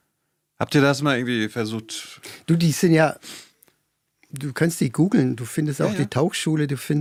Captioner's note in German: schnauben